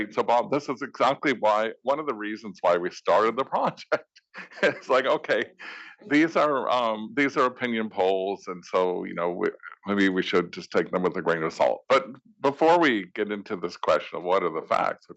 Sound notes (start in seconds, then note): 4.3 laugh